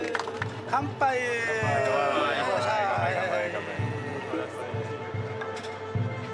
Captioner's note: speaking in foreign language